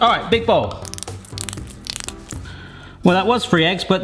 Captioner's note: eggs crack